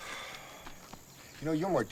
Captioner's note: Dash sighs